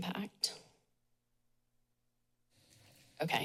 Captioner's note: pause